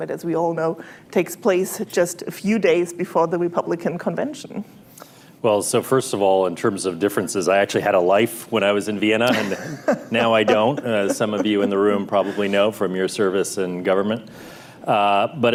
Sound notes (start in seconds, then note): 9.2 laughter